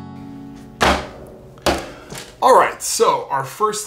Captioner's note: thudding